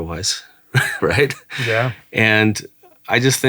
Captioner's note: laughing